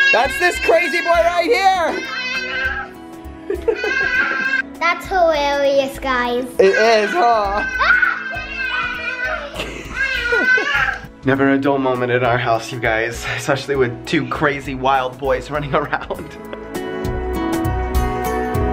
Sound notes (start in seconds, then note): 3.4 laughs; 6.6 yelling out; 15.8 chuckles